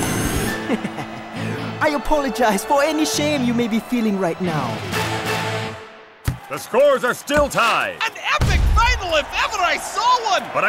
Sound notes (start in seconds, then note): 0.5 laughing